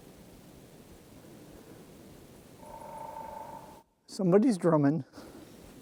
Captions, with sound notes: [Woodpecker drumming] Somebody's drumming.